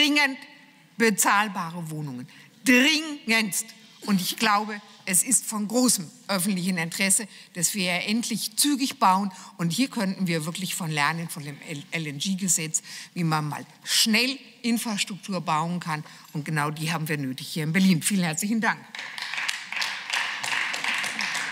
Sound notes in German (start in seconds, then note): 18.9 Beifall